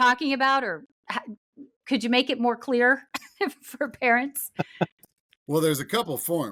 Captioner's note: chuckles